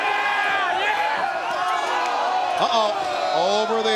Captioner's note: audience cheering